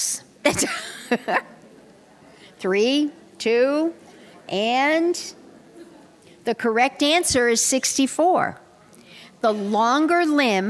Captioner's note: laughter